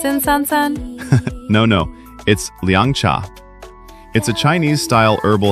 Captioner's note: laughs